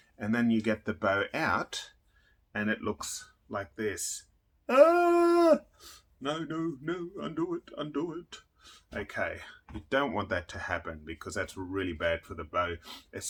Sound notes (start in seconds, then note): 4.7 screaming